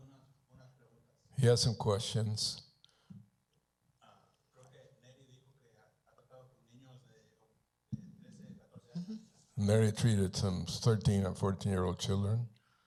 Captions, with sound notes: He has some questions. -[Spanish language] -Neri treated some 13 and 14-year-old children.